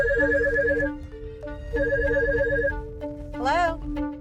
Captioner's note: phone ringing